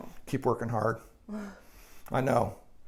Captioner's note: sighs